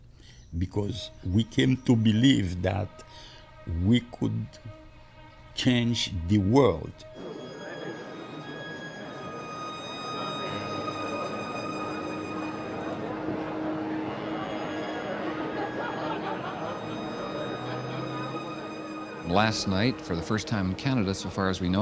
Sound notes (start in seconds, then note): 7.1 people chattering, somber violin music